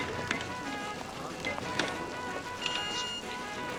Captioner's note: register beeping